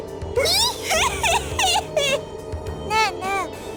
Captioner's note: greedy snickering